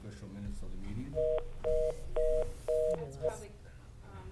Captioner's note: phone beeping